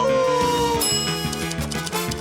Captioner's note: bell dings